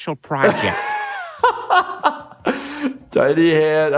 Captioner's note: laughs